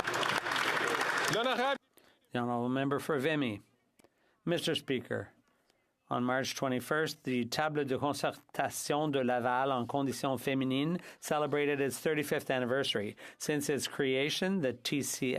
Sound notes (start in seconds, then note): 0.0 some Applause; 9.2 speaking French